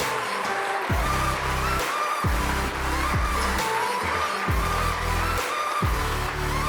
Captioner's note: audience applauds; upbeat music